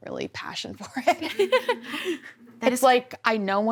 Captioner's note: laughs